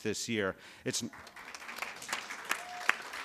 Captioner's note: applause